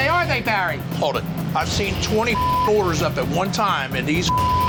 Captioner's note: beep